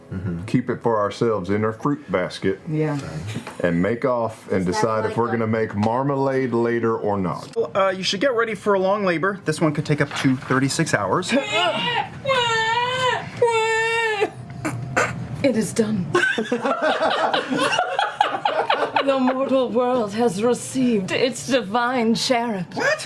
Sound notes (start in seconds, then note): 11.2 baby crying noises; 16.1 all laugh